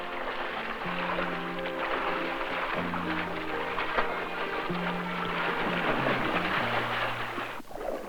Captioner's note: sounds of water splashing